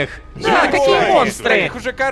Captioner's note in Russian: Недоумевание толпы